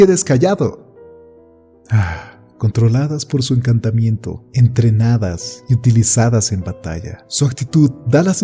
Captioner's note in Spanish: Suspiro